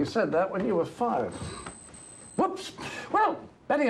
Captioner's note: watch ringing